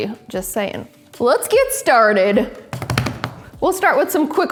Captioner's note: drumming table